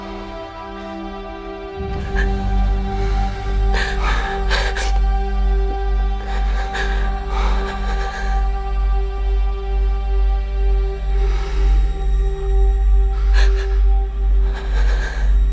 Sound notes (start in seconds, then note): 2.6 Sofia sniffles